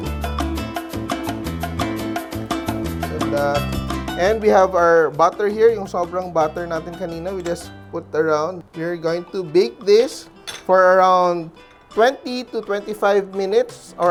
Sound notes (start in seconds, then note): 10.4 clang